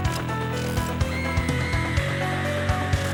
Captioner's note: woman screaming